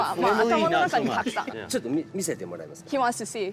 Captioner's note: speaking japanese